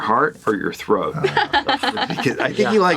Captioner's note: laughs